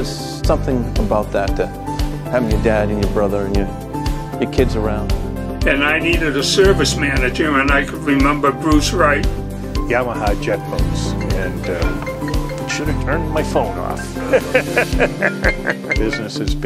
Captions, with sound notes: there's something about that having your dad and your brother and your kids around I need a service manager and I remembered Bruce Wright Yamaha jet boats.. (Phone ringing) should of turned my phone off (Laughs)